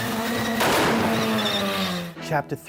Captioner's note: loud bang